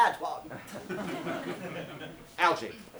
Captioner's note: audience laughs